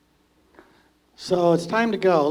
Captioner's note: emcee speaking